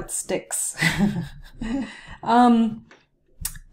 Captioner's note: chuckles